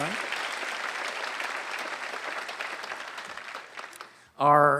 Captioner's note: applause